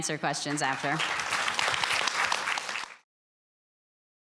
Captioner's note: applause